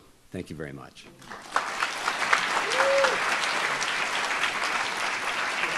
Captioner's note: audience applauds